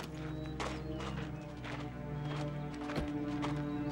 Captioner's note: footstep